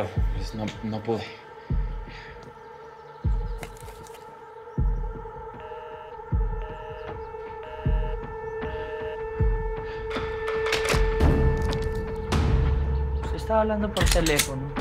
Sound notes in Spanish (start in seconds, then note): 4.5 Tono en la línea